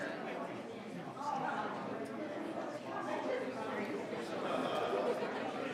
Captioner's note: group quietly conversing